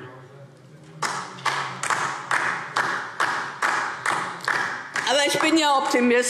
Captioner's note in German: Beifall DIE LINKE